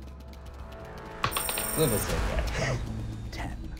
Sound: rolling dice

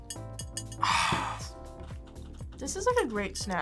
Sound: sighs

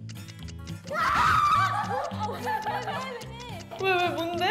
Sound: screaming

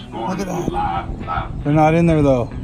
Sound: gasps

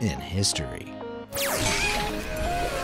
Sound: upbeat music; graphic whirring

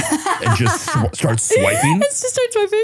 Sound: laughing

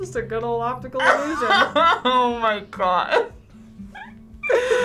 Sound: laughs

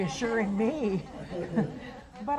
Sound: audience laughs

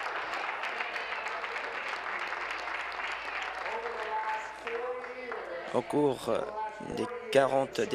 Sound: applause

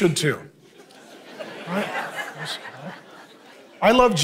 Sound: congregation laughing

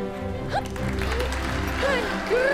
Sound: audience applauds

